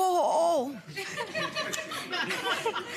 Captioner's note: laughing